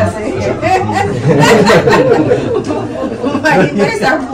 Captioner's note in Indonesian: tertawa